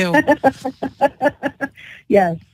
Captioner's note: laughter